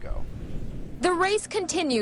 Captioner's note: air whooshes